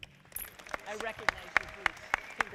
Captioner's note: audience clapping